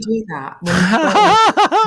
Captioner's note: laughing